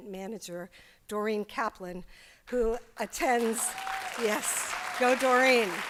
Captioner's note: applause